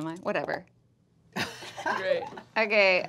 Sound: laughing

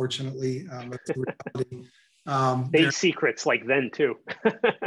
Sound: chuckling

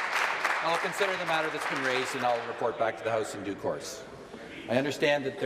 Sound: applause

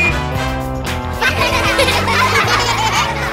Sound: laughing

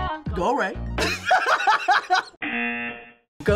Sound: laughing; buzzer; singing along

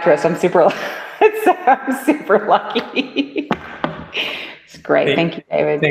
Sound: laughter

